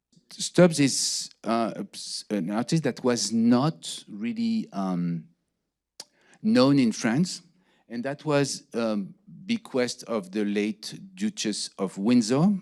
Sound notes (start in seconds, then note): none